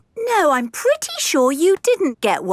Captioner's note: none